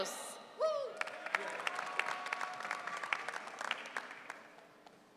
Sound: audience cheering

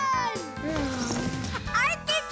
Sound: sighs

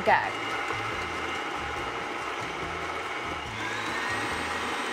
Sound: mixer whizzing

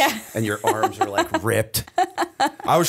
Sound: laughter

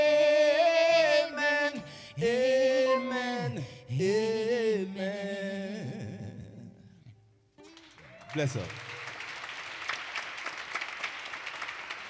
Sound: applause

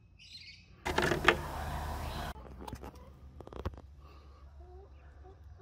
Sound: sifter lid scraping

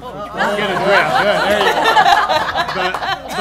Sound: laughing

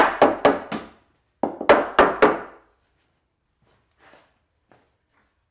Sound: hammering wood into place

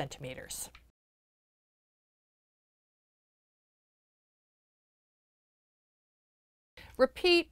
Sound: no Sound Present

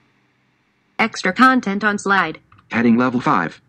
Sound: voiceover

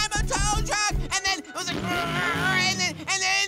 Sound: grunting

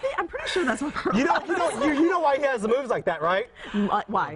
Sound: laughter

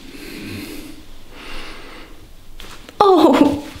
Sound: the girl screams after massage

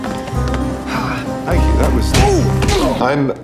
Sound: punch

